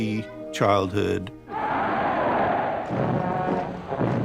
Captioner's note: shouting; band playing